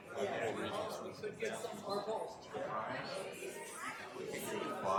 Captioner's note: people chattering